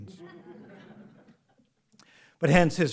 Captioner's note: audience laughs